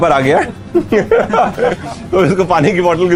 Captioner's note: everyone laughs